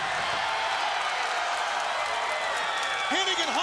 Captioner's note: crowd cheering